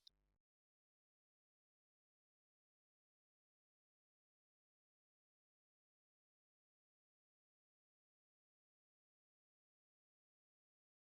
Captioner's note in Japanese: 無音